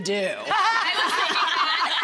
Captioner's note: all laugh